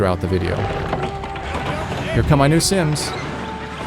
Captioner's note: Vietnamese